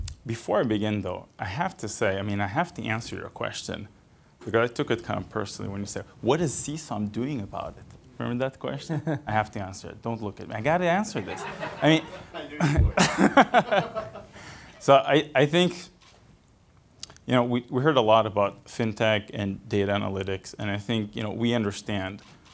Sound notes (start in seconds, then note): 11.1 laughter